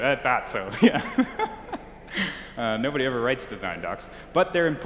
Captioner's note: laughs